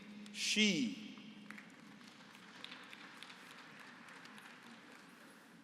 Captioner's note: applause